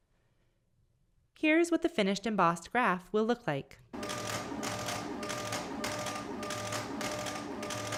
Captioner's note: printer running